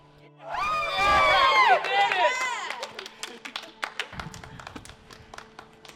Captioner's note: all cheering